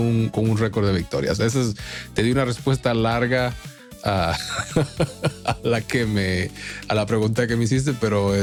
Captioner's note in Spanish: risas